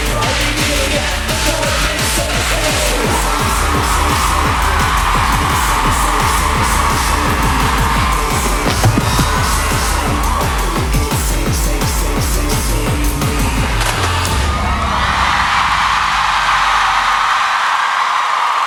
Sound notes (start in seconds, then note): 4.5 audience raving; 14.3 boom; 15.0 cheering